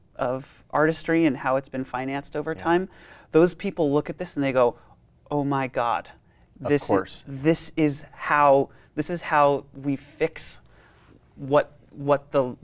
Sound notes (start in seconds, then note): none